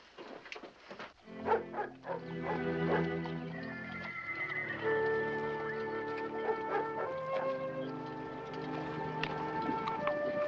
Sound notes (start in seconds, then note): 1.4 dog barking